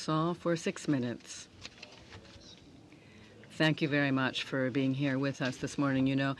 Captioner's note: speaking french